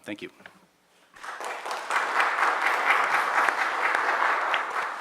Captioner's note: audience applauds